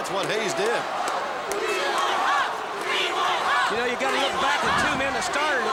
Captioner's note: applause